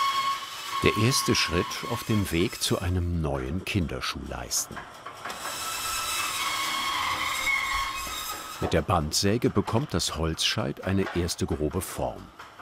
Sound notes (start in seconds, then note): 4.6 squeaking